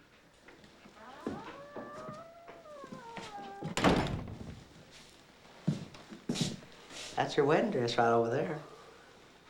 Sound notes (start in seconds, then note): 0.0 door creaks; 4.6 door creaks